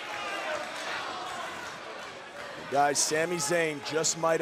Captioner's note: crowd chatter